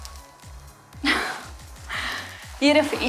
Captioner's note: sigh